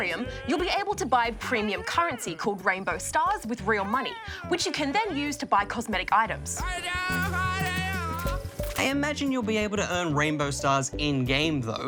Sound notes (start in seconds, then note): 7.0 jabbers